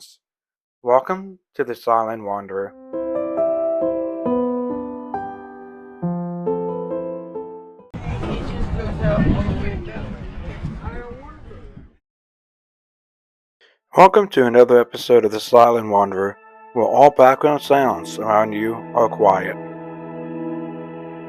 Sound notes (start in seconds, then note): 2.7 soft Piano Music; 13.7 voiceover; 19.6 calming Music